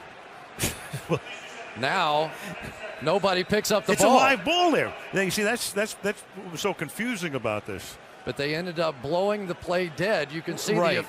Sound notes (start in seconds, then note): 0.6 chuckles